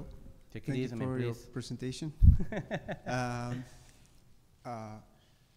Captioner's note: chuckles